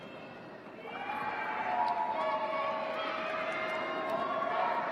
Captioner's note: shouting, cheering